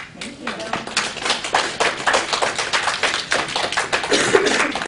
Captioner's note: applause